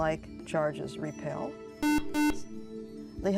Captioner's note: buzzer